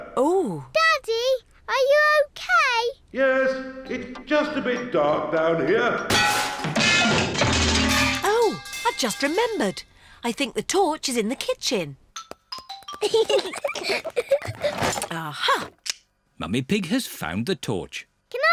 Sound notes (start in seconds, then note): 6.1 clanging and crashing; 13.0 peppa and george giggling